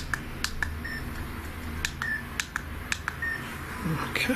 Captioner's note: beeping